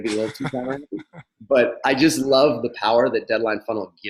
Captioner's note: laughs